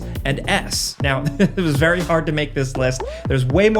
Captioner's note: chuckling